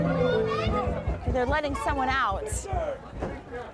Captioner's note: knocking